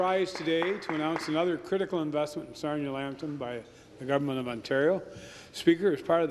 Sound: applause

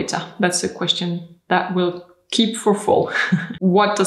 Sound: laughs

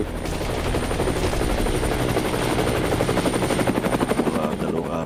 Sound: helicopter descending

